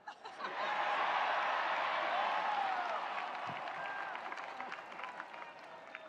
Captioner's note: attendees cheering; attendees applauding